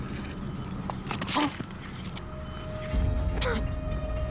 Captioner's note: grunts